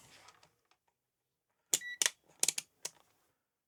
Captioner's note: beep